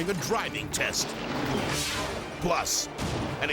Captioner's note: graphics whooshing